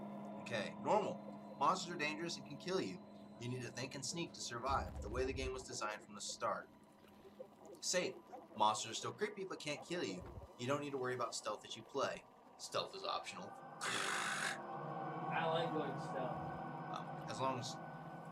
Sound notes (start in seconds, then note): 13.8 makes weird noise